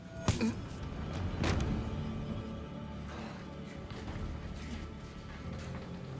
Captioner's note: dramatic music; blow thudding